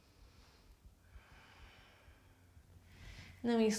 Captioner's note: inhales; exhales